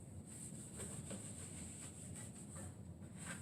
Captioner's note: wiping sounds